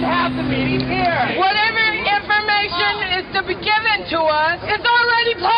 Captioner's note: voiceover